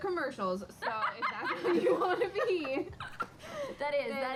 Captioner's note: laughter